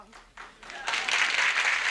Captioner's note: audience applauds